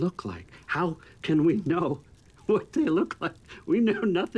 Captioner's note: chuckling